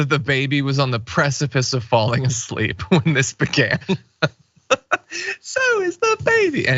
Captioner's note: laugh